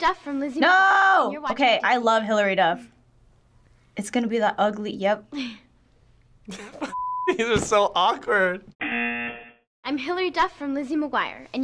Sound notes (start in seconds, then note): 6.5 laughs; 8.8 buzzer